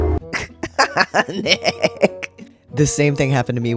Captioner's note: laugh